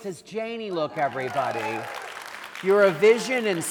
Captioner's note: audience applauding